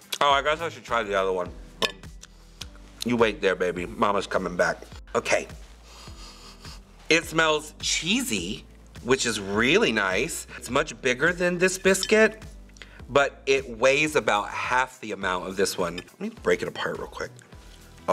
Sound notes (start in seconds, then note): 5.8 sniffs